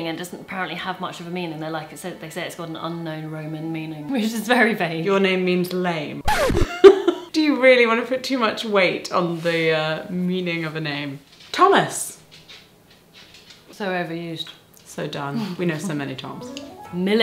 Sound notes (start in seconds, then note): 6.2 record scratches; 6.6 laughs